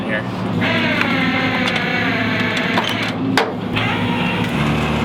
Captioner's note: machine operating